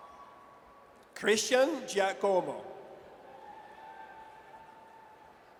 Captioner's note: audience cheers